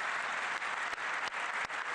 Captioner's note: applause